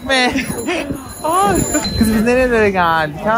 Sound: laughs

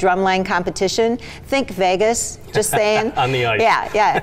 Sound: laughs

